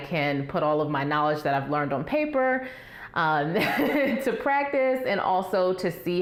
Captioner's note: laugh